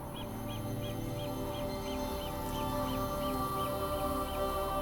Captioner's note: birds chirping